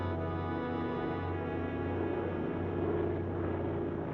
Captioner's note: aircraft droning